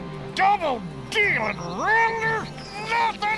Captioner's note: eagle whistles